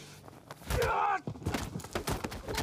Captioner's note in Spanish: grita